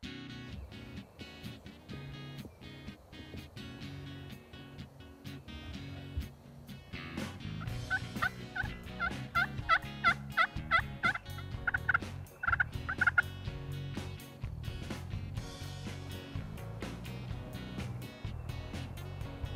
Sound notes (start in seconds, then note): 0.2 playful guitar music; 7.5 turkey calls